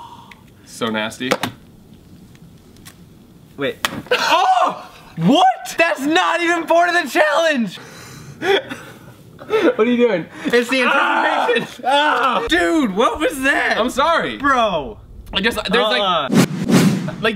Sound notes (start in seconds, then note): 4.4 egg thuds; 8.4 laughing